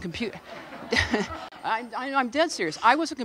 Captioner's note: laughing